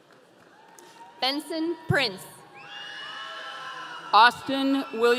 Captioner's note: audience cheering